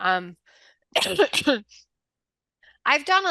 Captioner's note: coughing